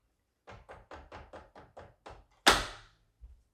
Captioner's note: hand thudding